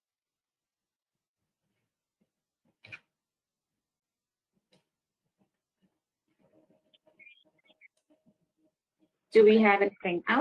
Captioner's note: 9 seconds pause